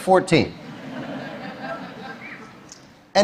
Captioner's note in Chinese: Laughter; 笑聲